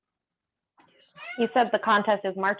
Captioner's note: meowing